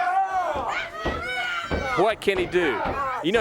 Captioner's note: crowd chatter